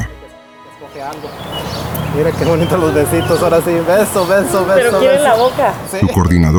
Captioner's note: riendo y charlando